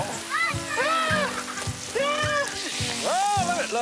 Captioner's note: screaming